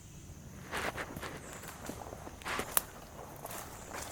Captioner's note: shuffling